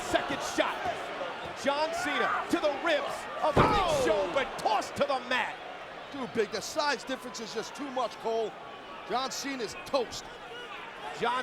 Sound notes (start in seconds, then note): 3.5 body thudding